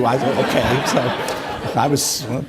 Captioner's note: audience applauding